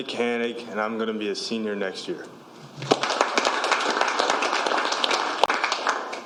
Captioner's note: applause